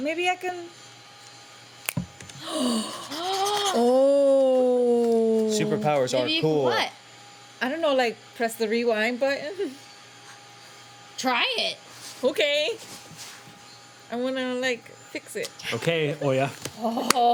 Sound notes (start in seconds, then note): 2.1 snaps fingers; 2.3 gasps